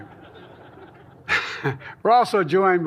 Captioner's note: laughter